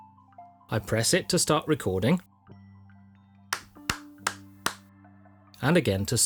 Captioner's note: clap hands